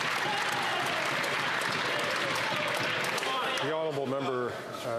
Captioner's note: some Applause